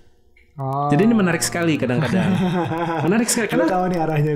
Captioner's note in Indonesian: tertawa